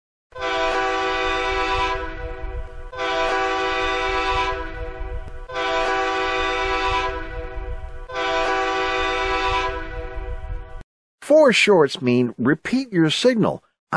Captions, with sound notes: Three short blasts mean get ready, the train is backing up. (train horn hooting)